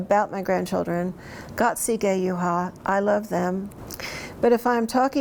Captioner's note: speaks in Cherokee